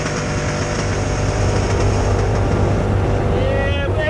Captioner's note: laughs